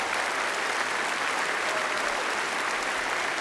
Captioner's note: applause